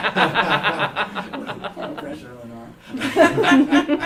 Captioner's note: laughter